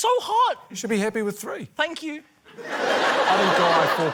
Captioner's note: laughter